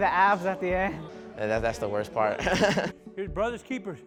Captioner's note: laughing